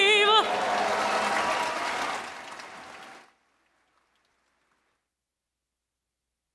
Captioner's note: audience applauding